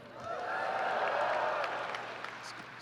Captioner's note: yelling, applause